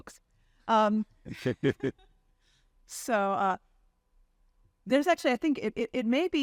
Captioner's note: chuckling